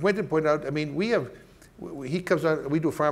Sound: stammering

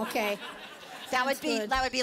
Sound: laughter

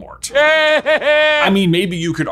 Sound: Voldemort laughing

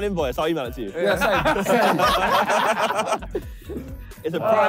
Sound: all laughing

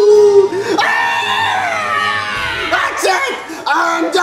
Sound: screams

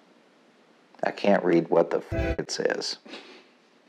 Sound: train horn

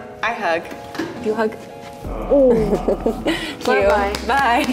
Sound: awww

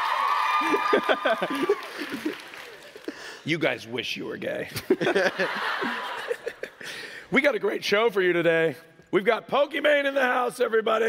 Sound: applause

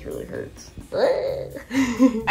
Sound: laughs

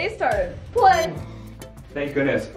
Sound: machine beeps

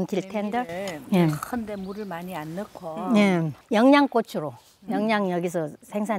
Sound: speaking foreign language

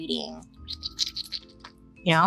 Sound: Bailey squelching lips

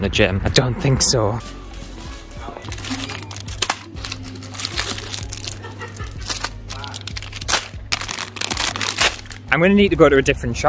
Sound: packets Rustling

